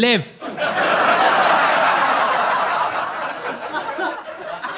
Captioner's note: audience laughs